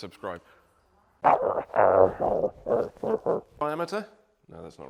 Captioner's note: growling